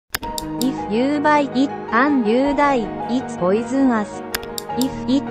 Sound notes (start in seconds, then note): 0.1 remote click; 0.2 pointer rod tapping; 4.3 remote click; 4.4 pointer rod tapping